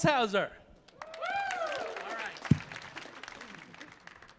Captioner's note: audience applauding